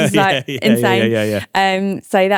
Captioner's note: laughing